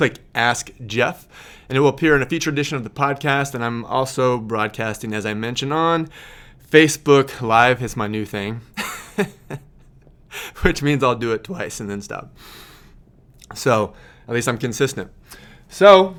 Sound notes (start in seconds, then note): 8.8 laughing